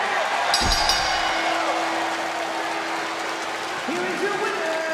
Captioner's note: bell rings